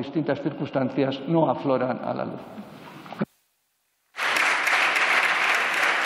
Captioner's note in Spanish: Aplausos